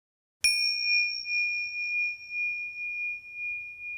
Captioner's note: bell chimes